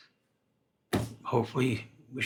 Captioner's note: desk thuds